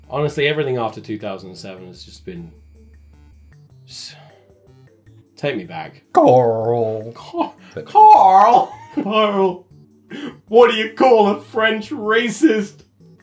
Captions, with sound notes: Honestly, everything after 2007 has just been... (disappointed sigh) Take me back. (Southern accent) Carl, Carl, (laughing) Carl, what do you call a French racist?